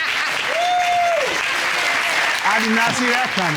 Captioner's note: cheers, applause